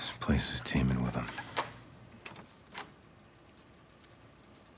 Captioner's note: sighs; lock clattering